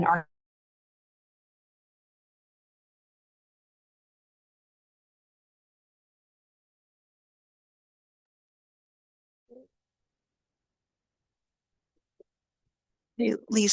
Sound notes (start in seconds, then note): 0.3 audio cuts out; 2.0 silence